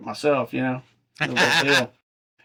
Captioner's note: laughing